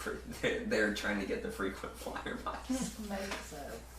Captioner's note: laughter